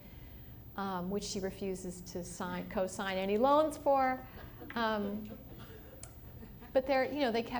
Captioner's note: laughter